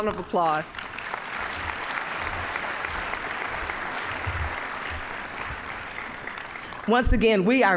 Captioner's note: applause